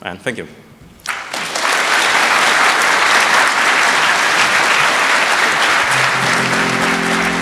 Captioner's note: applause